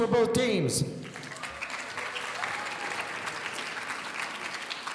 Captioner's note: audience applauding